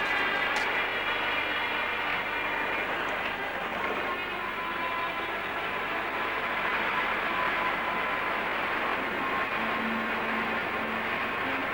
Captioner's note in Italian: Applauso